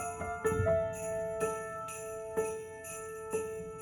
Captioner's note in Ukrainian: дзвін